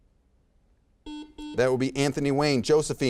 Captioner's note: buzzer beeps